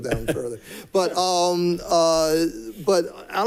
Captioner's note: people chuckling